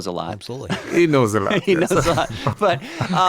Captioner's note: chuckles